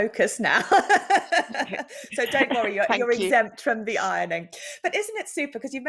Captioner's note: laughs